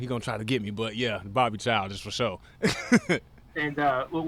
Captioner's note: laughs